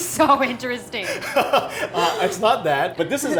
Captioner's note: laughs